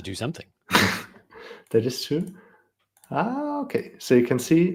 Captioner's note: scoffs